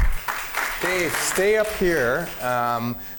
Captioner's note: applause